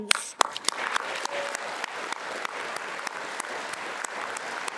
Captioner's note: attendees applauding